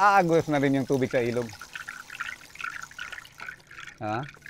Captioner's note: mimics the sound of a river flowing